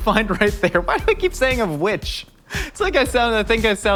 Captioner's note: laughs